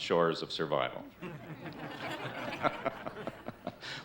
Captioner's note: all laughing